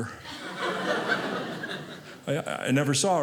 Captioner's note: audience laughing